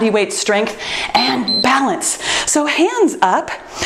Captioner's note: timer beeps